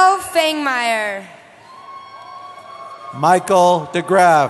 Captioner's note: cheering